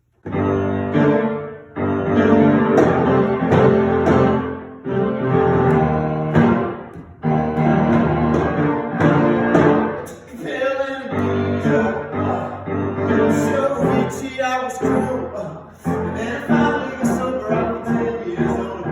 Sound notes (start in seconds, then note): 15.1 ngh